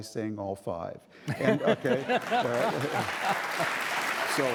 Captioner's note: laughing; audience applauding